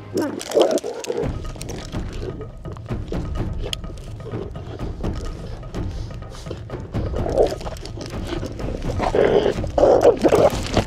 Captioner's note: growling, barking sounds and tension music